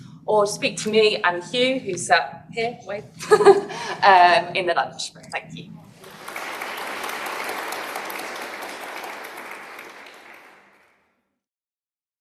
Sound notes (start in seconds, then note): 3.2 she laughs; 5.9 applause